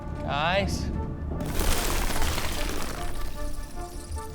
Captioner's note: rubble cracking and falling